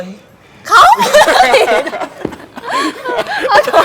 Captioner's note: laugh